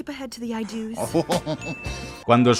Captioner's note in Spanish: risa socarrona